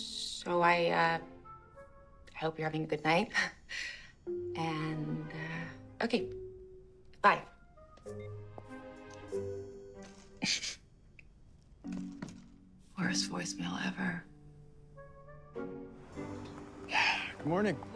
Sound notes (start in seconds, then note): 8.3 phone beeping; 16.8 sighing